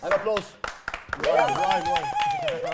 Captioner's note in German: Jubel